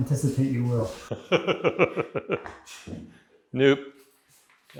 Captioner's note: laughing